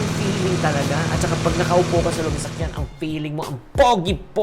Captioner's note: engine revving